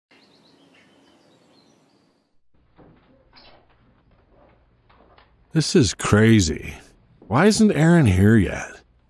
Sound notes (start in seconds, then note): 0.1 birds Chirping; 2.8 chairs Squeaking